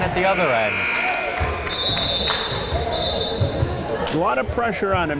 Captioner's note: timer buzzes